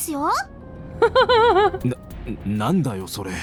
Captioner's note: chuckles